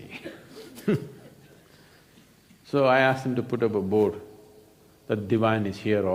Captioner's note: laughs